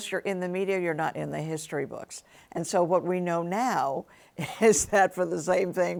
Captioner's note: chuckles